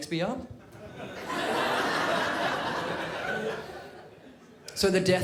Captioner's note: crowd laughs